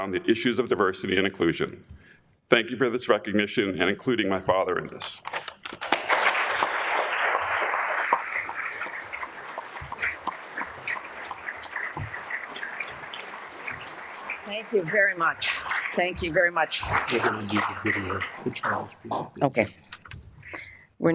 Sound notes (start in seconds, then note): 6.1 audience applauds